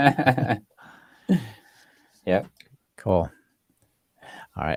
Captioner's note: both laughing